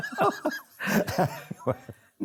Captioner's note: both laugh